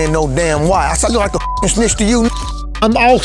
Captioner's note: beep